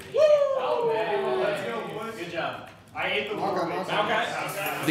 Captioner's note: chattering